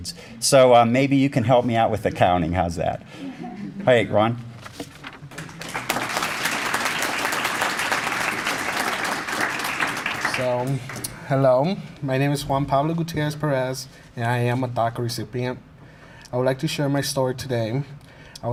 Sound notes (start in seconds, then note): 5.2 applause